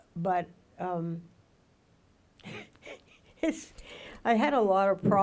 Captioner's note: laughs